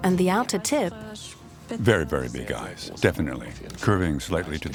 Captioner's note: speaking German